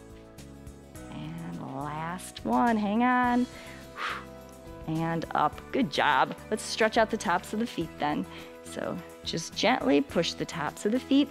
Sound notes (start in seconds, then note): 3.6 short exhale